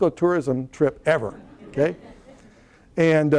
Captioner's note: laughter